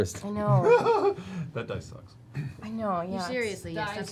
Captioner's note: laughs